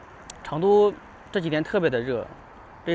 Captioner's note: 英语; 英语